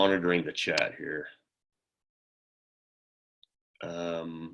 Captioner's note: silence